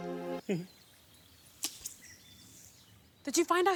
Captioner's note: giggles dismissively